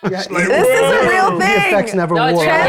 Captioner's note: players chattering